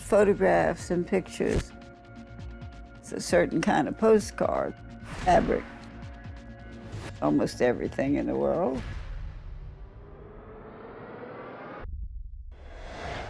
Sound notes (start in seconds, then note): none